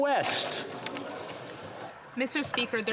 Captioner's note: some Applause